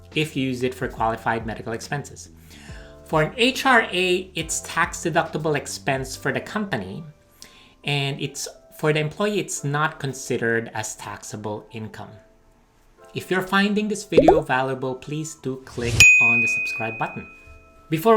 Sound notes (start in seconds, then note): 14.2 button beeping; 16.1 bell dings